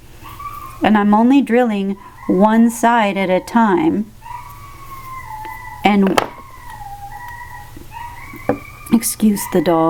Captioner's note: dog yowling